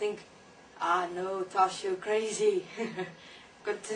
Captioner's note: laugh